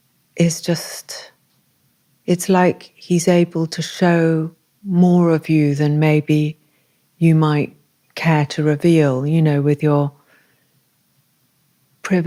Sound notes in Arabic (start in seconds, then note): none